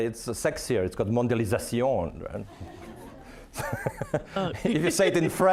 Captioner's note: audience laughing